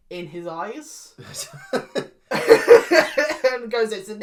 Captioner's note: laugh